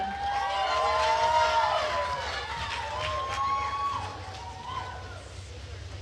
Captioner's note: attendees cheering and applauding